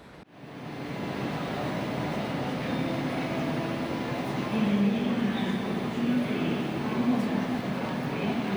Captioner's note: train station noises